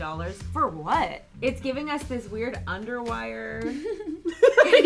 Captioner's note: laughs